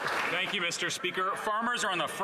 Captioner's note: some Applause